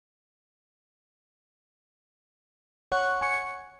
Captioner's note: silence